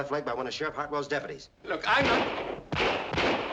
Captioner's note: gunfire